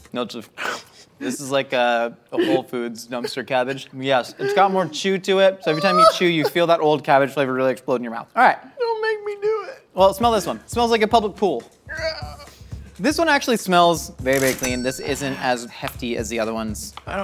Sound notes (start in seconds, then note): 9.2 fake crying; 11.5 pained noises